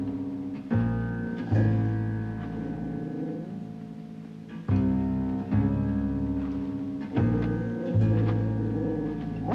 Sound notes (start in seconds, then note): 1.6 jack growling